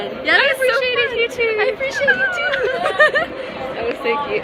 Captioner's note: girly cackle